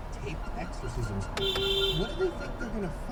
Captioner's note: beep beeeep!